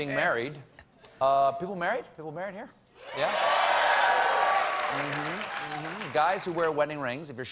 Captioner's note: applause